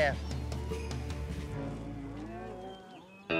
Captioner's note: cattle mooing